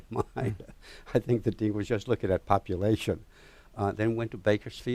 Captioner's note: laughs